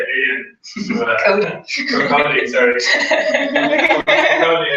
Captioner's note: laugh